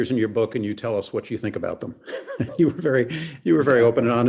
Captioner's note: laughs